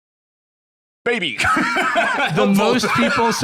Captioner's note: laughs